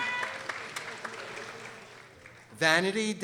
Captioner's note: people applauding